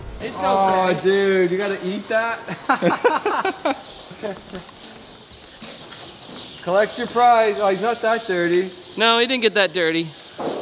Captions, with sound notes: - Ah, dude, you gotta eat that? (laughing) Collect your prize, it's not that dirty. - No, he didn't get that dirty.